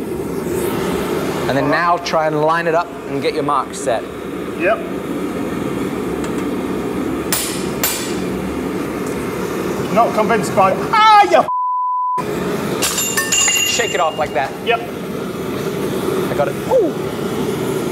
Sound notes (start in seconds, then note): 7.6 metal clanging